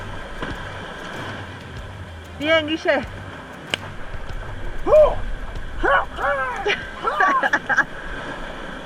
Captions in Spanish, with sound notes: ¡bravo Guille! (festeja, gruñe y se golpea las piernas) (risas)